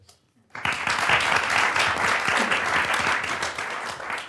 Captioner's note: audience applauds